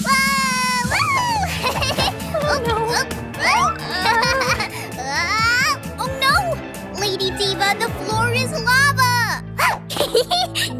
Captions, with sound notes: - Oh, whoo. (Neon QT giggles) Oh no, Lady Diva, the floor is lava.